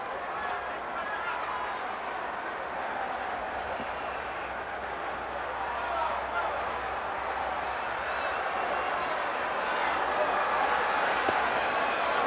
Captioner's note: crowd chatter